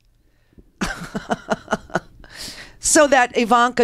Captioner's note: laughs